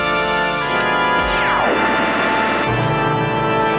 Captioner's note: static zapping; thunder!